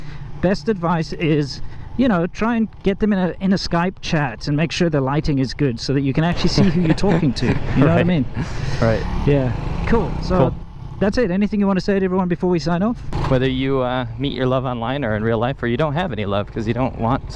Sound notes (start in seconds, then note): 9.0 laughs